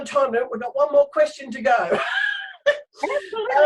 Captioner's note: laughs